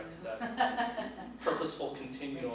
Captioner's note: laughs